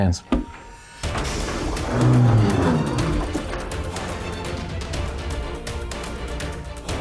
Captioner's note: epic music; hydraulics hiss